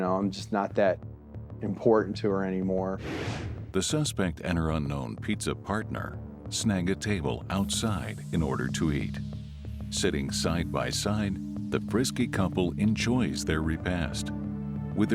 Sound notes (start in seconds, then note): none